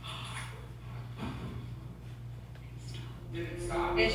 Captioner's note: stereo thuds